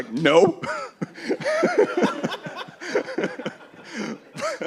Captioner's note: laughter